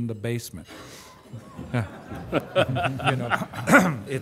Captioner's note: luaghter